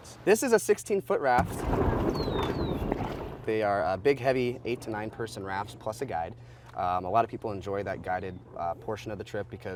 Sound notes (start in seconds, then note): 1.4 raft scraping on rock